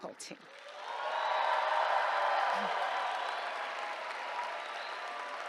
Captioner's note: cheers, applause